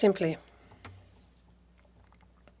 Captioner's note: speaking French